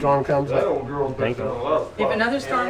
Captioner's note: chatter